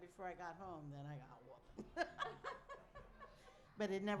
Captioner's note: laughs